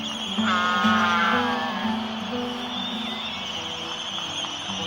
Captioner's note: albatross honking; calm music